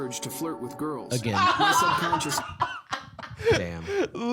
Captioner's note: laughing